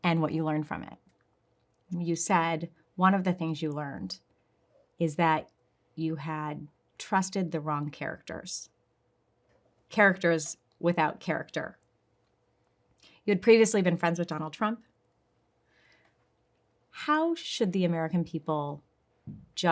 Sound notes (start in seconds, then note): none